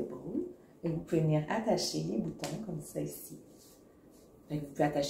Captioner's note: snap!